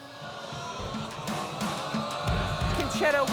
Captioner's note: audience exclaims